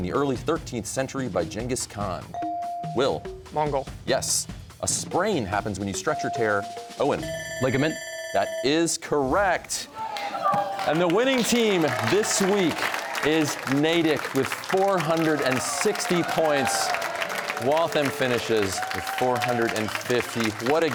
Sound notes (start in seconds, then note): 6.1 bell ringing; 10.1 audience exclaiming